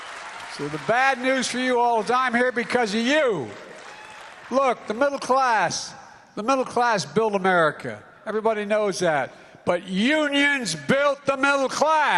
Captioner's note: applause